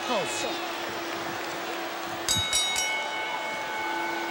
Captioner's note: ring bell dinging